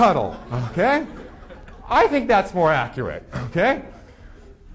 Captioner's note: audience laughing